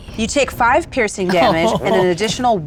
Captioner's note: laughs